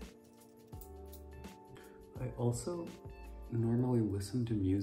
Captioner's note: none